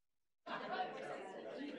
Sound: people chattering

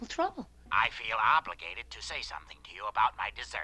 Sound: on phone

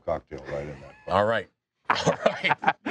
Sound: laughing

